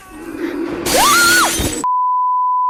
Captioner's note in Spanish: Cristal rompiendose